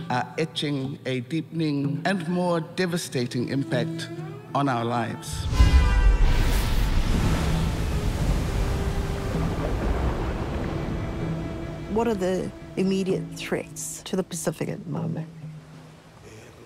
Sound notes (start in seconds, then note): 5.4 car horns blare; 7.4 waves crash; 9.4 water burbles